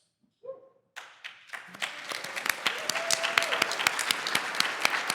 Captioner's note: applause